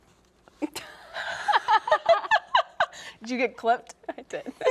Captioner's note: laugh